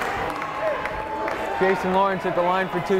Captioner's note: yelling